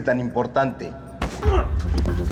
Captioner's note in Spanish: Quejido